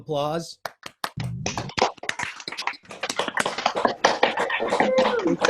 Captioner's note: audience applauds